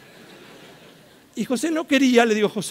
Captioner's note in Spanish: risas